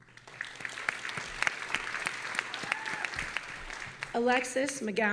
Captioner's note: audience applauding